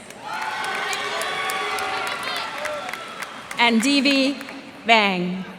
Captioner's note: cheers and applause